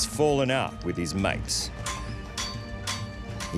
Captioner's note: metal thuds